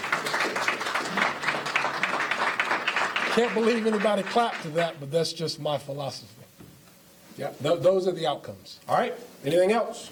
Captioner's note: applause